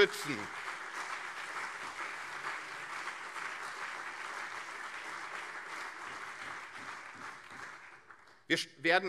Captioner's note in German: Beifall CDU und SPD